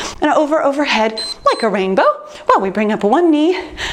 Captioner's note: timer beeps